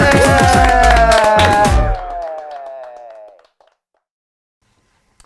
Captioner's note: applauding loudly